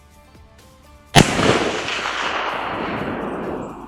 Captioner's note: gun shot